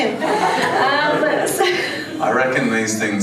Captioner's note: laughs